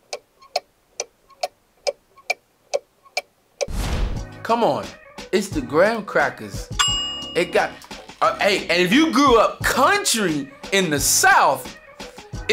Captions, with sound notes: Come on. It's the graham crackers. (bell sound) It got, hey, and if you grew up country in the South,